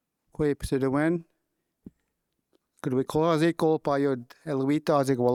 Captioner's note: speaking in Wolastoquey